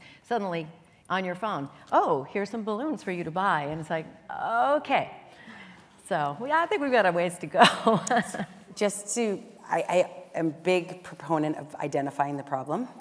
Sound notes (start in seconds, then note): 7.6 laughs